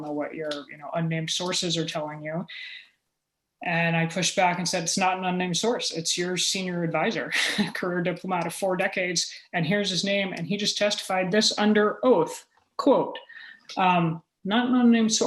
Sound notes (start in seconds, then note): 7.1 chuckle